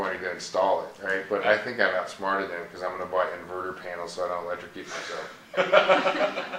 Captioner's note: laughing